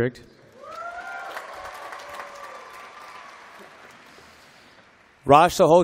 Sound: applause

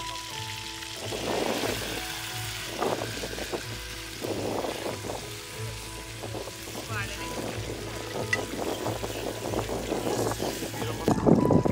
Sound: wind blowing

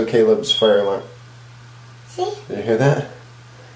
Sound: fire alarm chirps

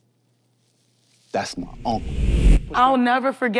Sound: wind whooshes

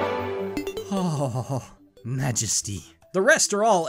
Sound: happy shudders

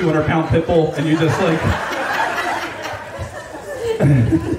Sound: audience laughing

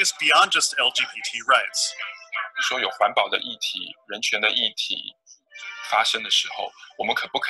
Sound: Mandarin

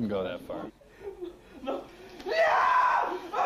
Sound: screaming

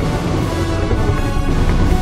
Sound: Indominus Rex growls; crashing sounds

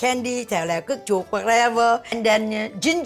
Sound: speaking foreign language

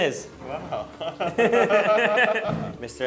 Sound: they both laugh

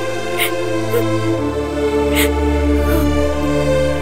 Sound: sobbing

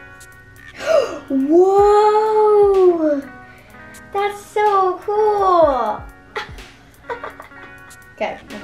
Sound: gasps; laughs

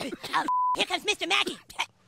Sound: boys coughing; beep

